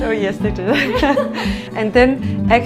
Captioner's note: laughing